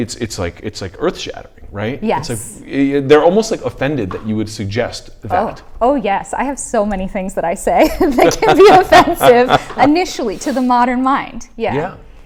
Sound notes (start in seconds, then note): 7.9 laughs